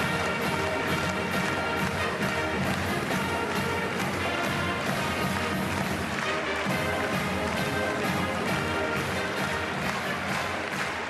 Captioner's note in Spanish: Aplausos